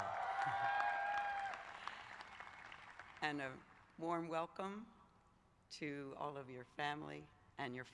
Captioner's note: cheers